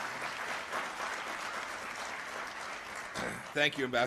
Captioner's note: applause